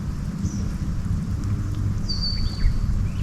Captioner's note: bird calls